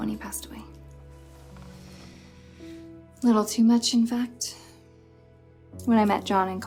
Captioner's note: sighs